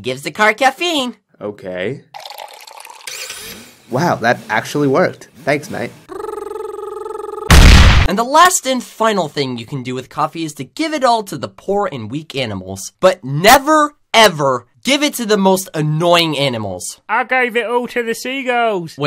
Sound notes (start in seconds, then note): 7.5 boom